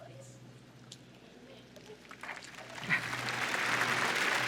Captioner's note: applause